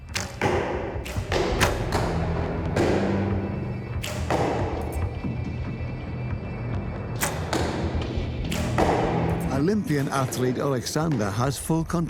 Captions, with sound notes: (arrows flying and striking target) Olympian athlete Oleksander has